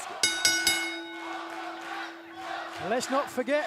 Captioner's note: bell